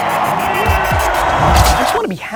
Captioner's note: upbeat music; audience applauds